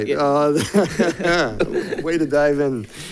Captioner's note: board members laugh